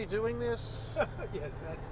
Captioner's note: laughter